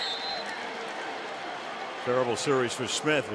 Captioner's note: whistle